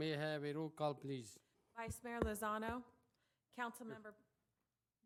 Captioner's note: gavel